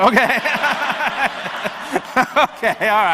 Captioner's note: and audience laughs